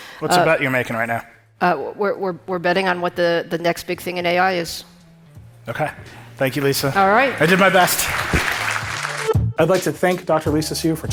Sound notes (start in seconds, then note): 6.9 audience applauding; 9.3 upbeat music